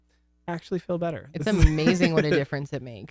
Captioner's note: laughs